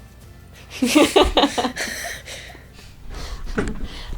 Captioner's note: laughs